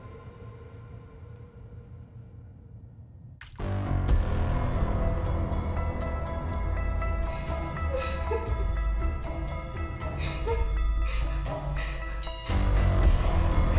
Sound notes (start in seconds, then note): 3.6 suspenseful music; 7.4 Miriam crying